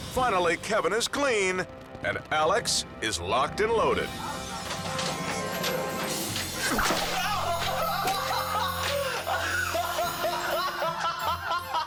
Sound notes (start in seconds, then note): 4.7 suspenseful music continues; 6.6 laughing